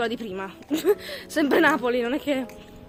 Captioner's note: laughter